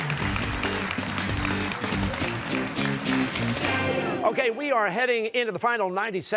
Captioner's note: cheers and applause